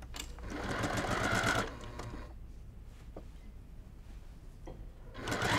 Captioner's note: sewing machine humming